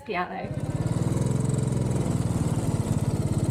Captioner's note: bike engine